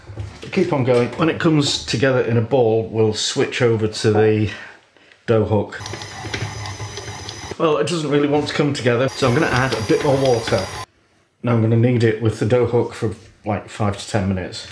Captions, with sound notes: keep on going. When it comes together in a ball we'll switch over to the dough hook. [ CHUG ] Well it doesn't really want to come together so I'm going to add a bit more water. Now I'm going to knead it with the dough hook for like five to ten minutes.